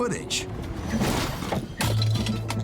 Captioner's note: thuds